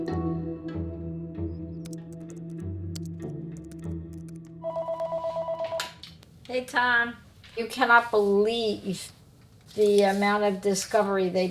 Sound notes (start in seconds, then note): 4.6 phone ringing